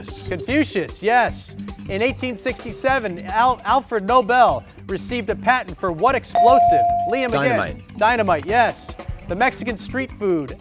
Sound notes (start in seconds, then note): 6.3 ding